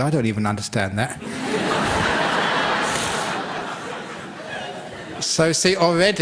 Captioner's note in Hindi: हँसी